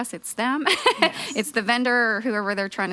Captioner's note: laughing